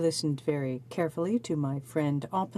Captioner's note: speaking French